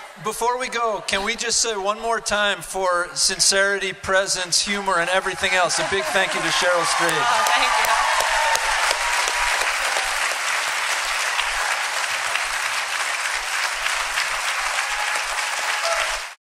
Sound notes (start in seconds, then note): 8.0 applause and cheering